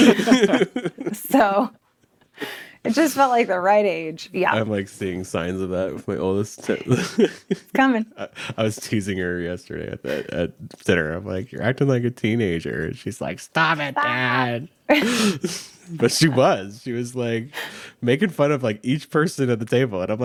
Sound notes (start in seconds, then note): 0.0 group laughing; 14.9 group laughing